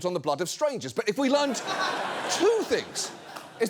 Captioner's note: audience laughs